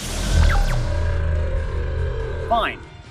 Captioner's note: cyber dragon roar